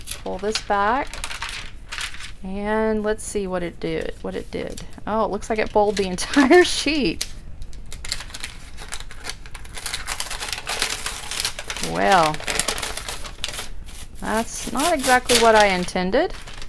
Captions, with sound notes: pull this back and let's see what it did. Oh, it looks like it mauled the entire sheet. (chuckles) Well, that's not exactly what I intended.